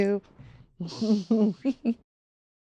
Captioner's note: laughter